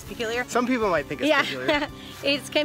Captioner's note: laughs